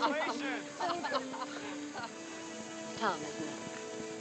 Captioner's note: laughing